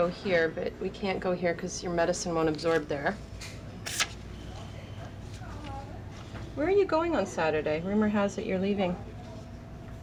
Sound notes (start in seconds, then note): none